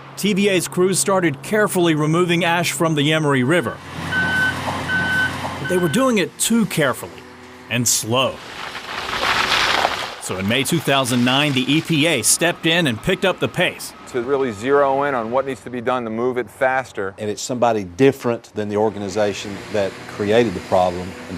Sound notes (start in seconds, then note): 4.0 beeping; 8.4 gravel crunching